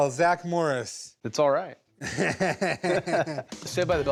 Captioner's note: laughs